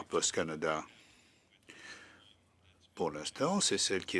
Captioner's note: speaking in French